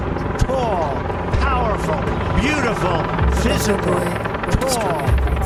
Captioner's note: helicopters grow louder